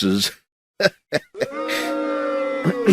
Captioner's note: laughs